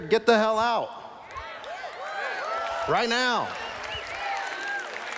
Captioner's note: cheers